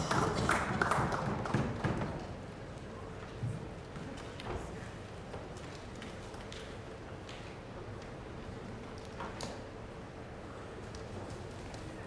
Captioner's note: some Applause